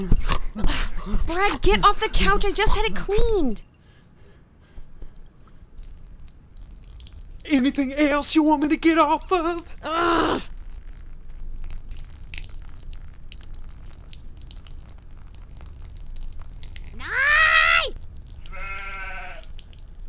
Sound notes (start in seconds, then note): 0.2 jumping and dog panting noises; 4.3 peeing sound; 10.5 peeing sound continues